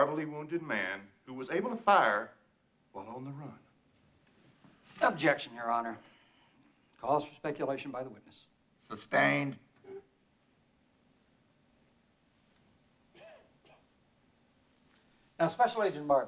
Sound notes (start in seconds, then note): 13.1 man coughing